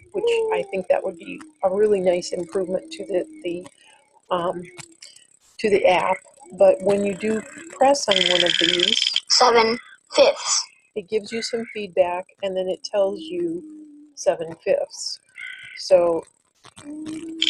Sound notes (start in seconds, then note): 7.8 wheel clicking; 9.6 voiceover